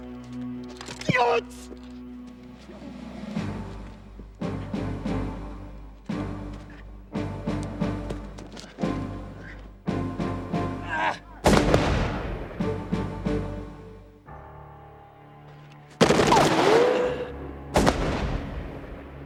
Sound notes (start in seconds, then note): 6.2 gunshot firing; 6.2 yelling; 11.4 gunshots firing; 16.8 gun clicking